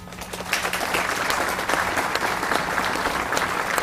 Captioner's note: audience applauds